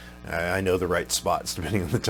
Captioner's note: chuckles